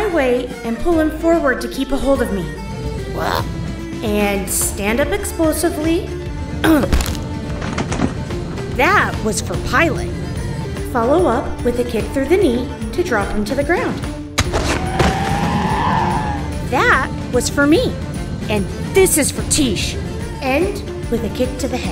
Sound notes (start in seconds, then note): 14.4 bone breaks, Scaled One screaming